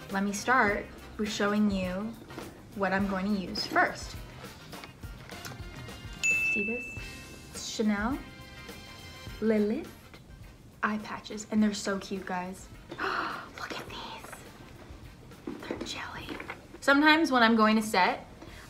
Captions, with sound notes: Let me start with showing you what I'm going to use first. (bell dings) See this? It's CHANEL Le Lift eye patches. And they're so cute, guys. (gasping) Look at these! They're jelly. Sometimes, when I'm going to set,